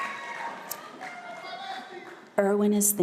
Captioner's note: background chatter